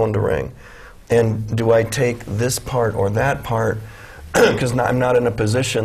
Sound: cough

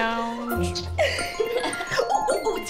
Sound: phone ring

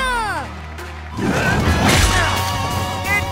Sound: grunting

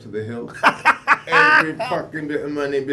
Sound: laughs

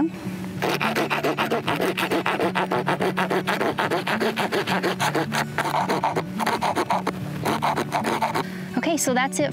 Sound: bone saw

